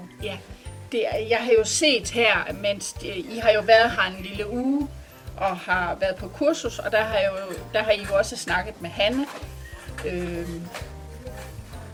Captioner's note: in Danish